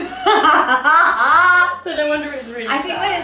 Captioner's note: laughs